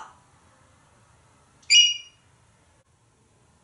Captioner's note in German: tweet